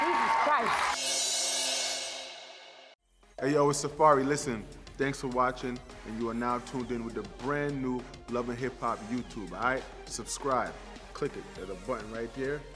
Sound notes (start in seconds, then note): 0.9 reverse cymbal clanging